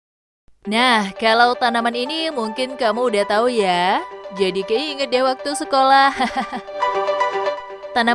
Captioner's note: laughs